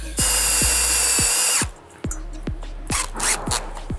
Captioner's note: drill whirring